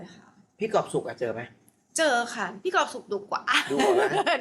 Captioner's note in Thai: เสียงหัวเราะ